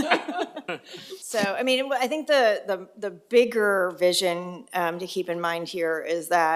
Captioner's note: laugh